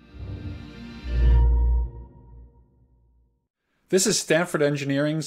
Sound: ambient chime

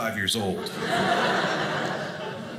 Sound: audience laughing

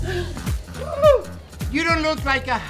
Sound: gasps

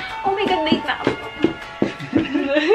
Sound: laughing

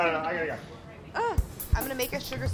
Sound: grunts

